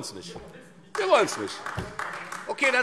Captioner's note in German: Beifall Freie Demokraten und AfD